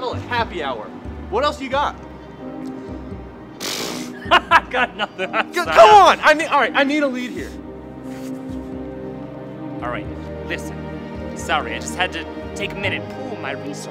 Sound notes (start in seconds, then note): 3.8 bursts into laughter